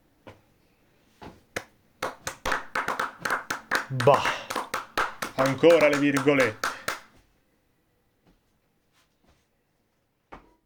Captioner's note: applause